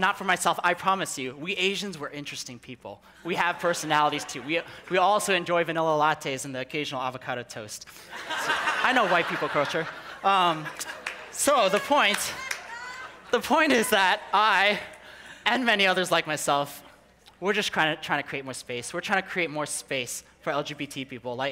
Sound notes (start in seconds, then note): 7.9 people laughing